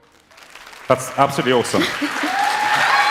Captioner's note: applause